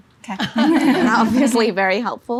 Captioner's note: laughing